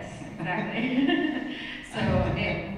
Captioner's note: laughs